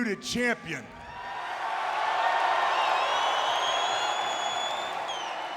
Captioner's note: audience cheers